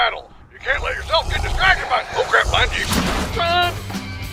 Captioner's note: META hissing in background